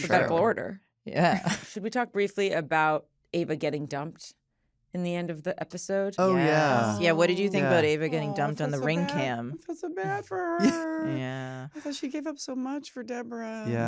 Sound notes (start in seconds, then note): 6.2 all agreeing; 10.5 chuckles